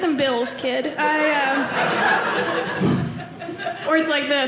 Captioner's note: audience laughing